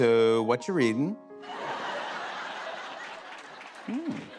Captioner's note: laughter